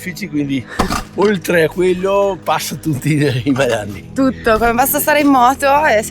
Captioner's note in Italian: schiarire la voce